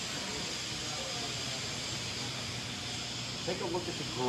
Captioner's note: machine whirring